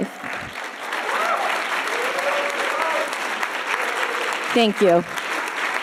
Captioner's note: audience applauding and cheering